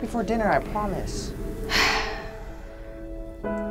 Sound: Momma Pikachu sighs

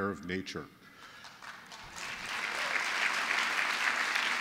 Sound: applause

